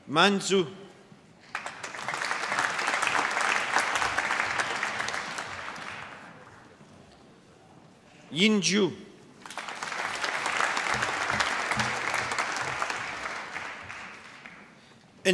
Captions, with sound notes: Man Xu. (APPLAUSE) Yin Zhu. (APPLAUSE)